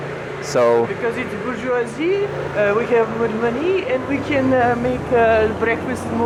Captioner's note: French accent